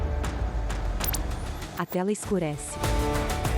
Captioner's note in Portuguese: Ruído eletrônico